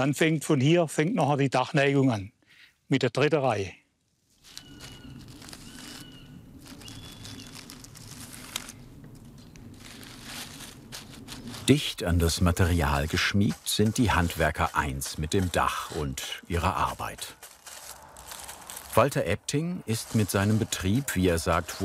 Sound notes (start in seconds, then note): 4.4 bird calls